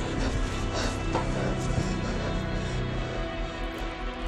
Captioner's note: Andrea gasping